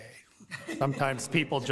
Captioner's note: committee members laugh